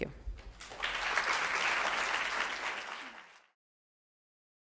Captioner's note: audience applauding